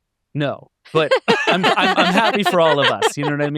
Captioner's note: laughing